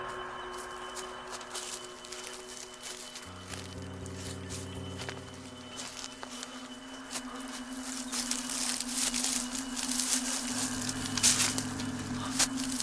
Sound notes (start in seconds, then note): 6.7 branches rustling